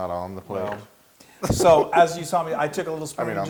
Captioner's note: laugh